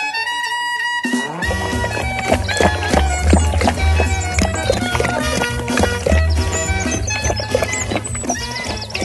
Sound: sound of drinking water

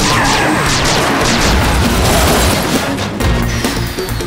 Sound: gun firing

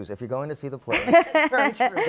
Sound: laughter

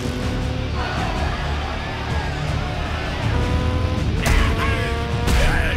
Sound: crowd growling; bystander groaning

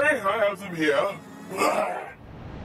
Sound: grunts

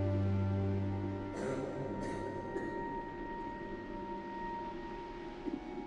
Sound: Stephanie coughing

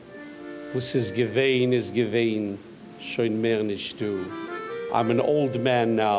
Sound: speaking in foreign language

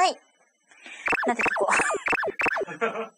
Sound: laughs

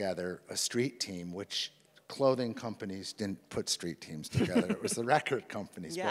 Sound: laughs

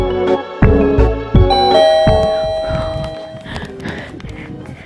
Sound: door bell rings

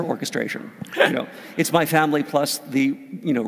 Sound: laugh

